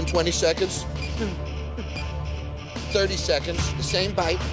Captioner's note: timer beeping